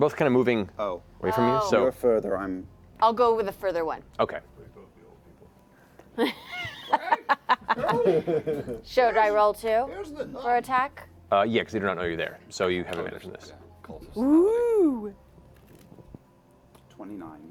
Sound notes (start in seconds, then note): 6.2 laughter